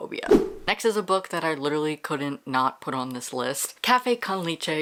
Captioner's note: whoosh